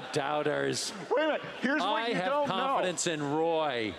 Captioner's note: laughing